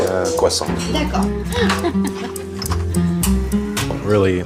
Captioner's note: worker chuckling